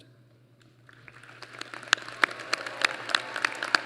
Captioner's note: applause